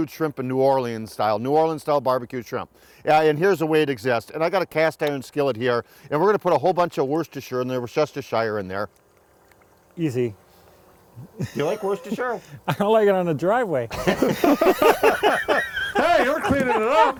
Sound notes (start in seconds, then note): 8.8 sauce dripping; 10.6 wheezing; 13.9 all laughing